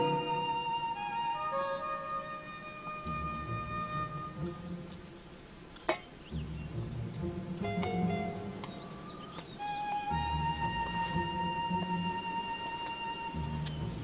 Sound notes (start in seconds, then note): 5.8 metal clang; 6.7 footsteps